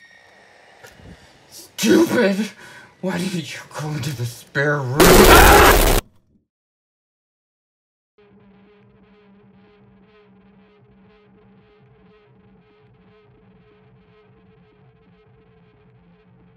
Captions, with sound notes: Stupid, why didn't you go into the spare room? (filmer shouts)